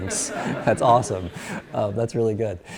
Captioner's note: class laughs